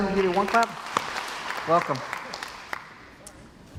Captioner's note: crowd applauds